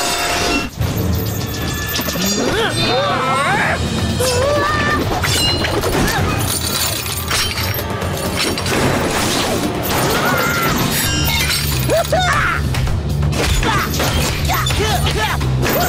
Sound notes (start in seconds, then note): 2.2 grunting; 10.1 screaming; 12.7 grunting